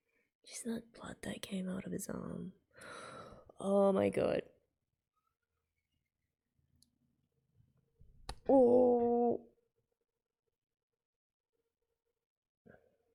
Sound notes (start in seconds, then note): 2.8 sharply inhales